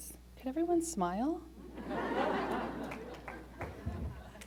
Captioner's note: laughter